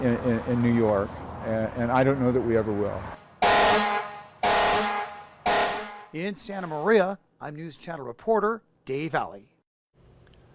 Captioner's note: horn blasting